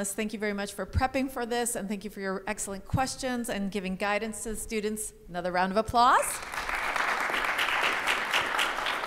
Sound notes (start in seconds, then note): 6.4 audience applauding